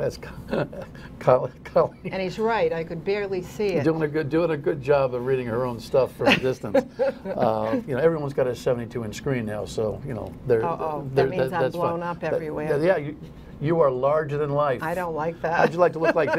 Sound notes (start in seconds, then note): 3.4 laughter